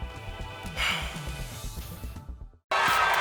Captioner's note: sighing